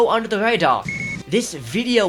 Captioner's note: beep